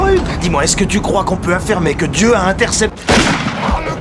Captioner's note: bang